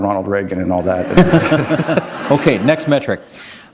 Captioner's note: laughter